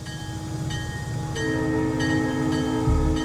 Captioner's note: train bell